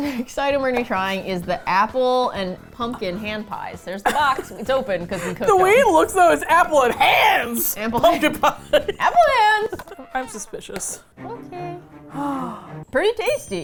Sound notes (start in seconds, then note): 4.0 laughs; 10.2 sad trumpet